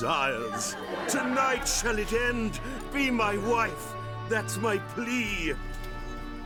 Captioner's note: laughter